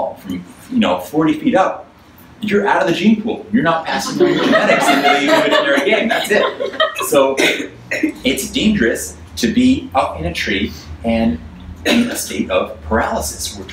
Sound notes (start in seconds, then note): 6.5 audience laughs